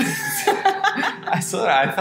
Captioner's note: both laugh